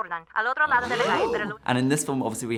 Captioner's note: gasps